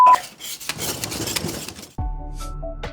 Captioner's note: beep; sawing; gentle relaxing music